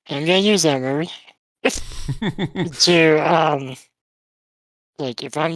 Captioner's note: laughs